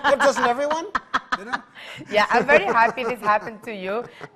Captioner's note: laughing